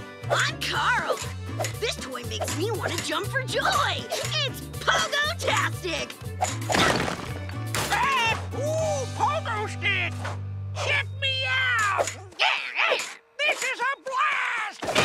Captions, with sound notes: I'm Carl! This toy makes me want to jump for joy. It's pogotastic. [squawking] Ooh, pogo stick. Check me out! This is a blast!